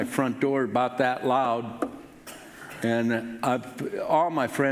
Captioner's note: knocks on table lightly